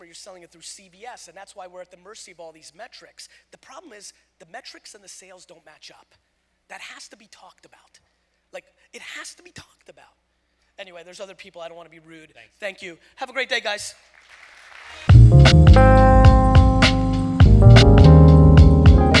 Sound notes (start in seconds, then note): 14.1 audience applause; 15.1 jazz music